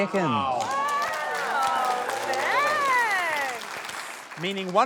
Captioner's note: cheering, applause